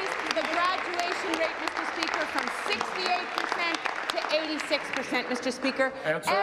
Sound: applause

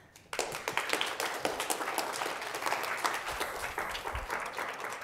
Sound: students clapping

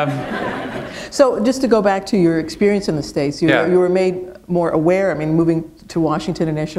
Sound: laughter

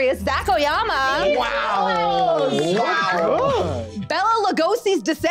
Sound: group cheering

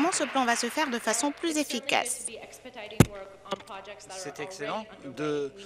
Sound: applause

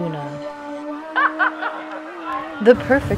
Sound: ha ha ha!

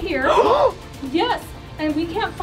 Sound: gasps

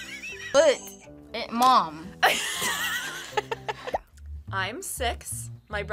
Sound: laughs; both laugh

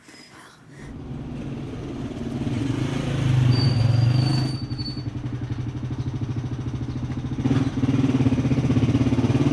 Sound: motorcycle passing

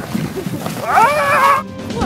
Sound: screams

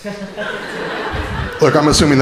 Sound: crowd laughing

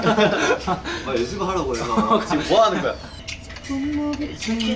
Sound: laughs

